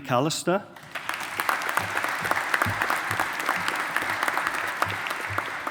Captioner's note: audience applauding